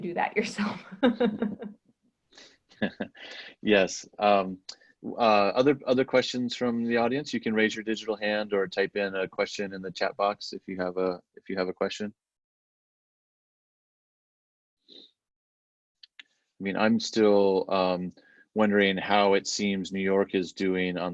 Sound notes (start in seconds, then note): 2.8 laughs